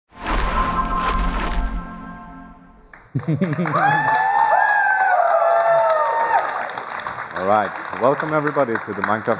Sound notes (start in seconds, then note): 1.1 laughter; 2.8 applause